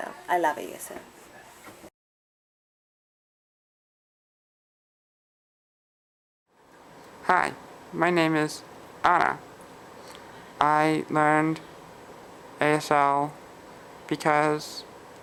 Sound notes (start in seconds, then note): 4.0 pause